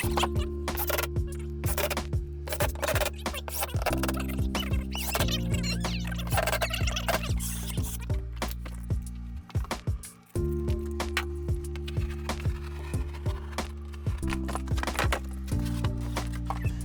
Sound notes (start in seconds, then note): 2.0 drill whirring; 4.5 tape fast forwarding; 9.0 gentle music; 12.1 knife slicing